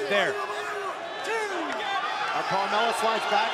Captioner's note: crowd cheering